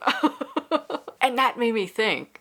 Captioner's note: laughs